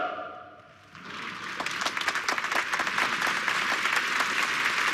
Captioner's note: applause